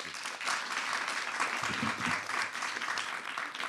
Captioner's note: applause